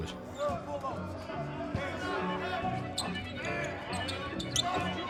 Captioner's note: basketball players yelling